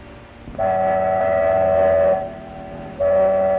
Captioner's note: horn blows